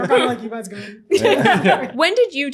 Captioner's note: everyone laughs